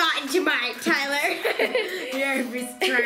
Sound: laughing

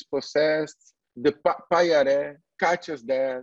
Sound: foreign language

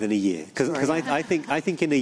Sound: laughter

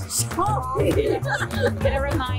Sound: laughter

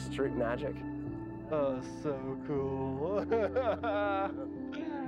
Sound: laughter

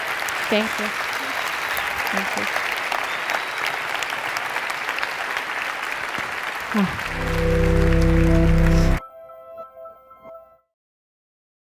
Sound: applause

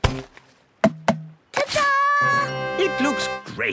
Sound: tapping

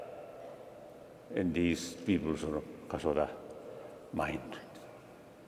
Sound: speaking foreign language

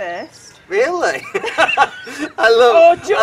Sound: laughter

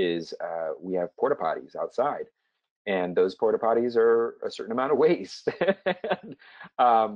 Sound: laugh

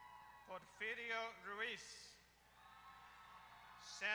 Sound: applause; applause

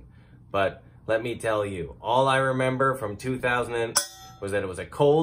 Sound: bangs on sauce pan

